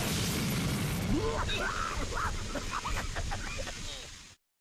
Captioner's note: coughing